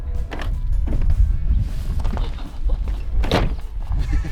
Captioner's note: trunk clicks; trunk slams